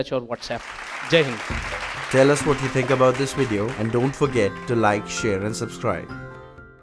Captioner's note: applause